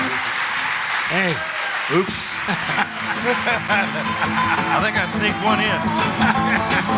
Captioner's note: laughs